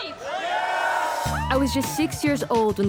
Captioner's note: crowd cheering